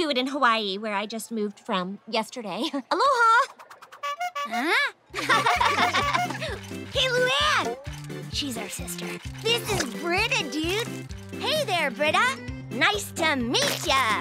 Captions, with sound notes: where I just moved from, yesterday. Aloha. [honking] Heh? [laughing, honking] Hey, Luan! She's our sister. This is Brita, dude. Hey there, Brita. Nice to meat ya.